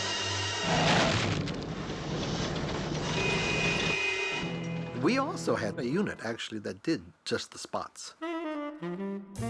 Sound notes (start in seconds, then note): 3.1 horn honking